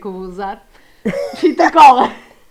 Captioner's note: laughs